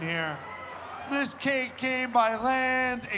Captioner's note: bells ringing